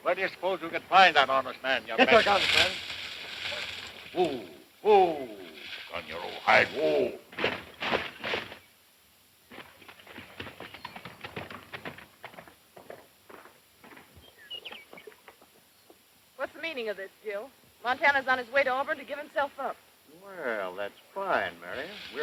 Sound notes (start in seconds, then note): 2.1 rattles; 9.4 galloping hooves